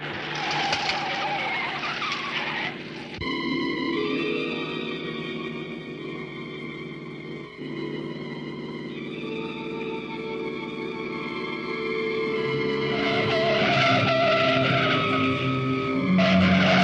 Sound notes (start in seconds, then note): 0.3 tires screeching; 12.9 tires screeching